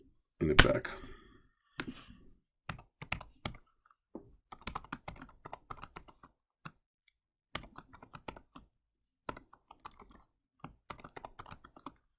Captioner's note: typing